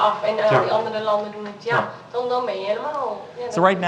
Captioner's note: voices in foreign language